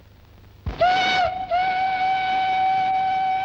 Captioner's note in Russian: звук паровозного гудка